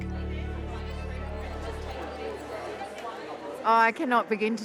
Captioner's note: crowd chatters